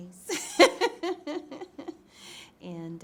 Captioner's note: laughs